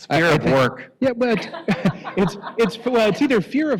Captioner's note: laughter